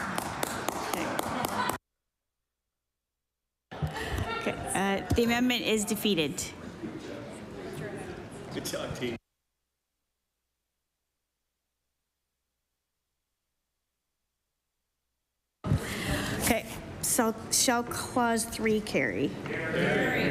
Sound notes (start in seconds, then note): 2.2 applause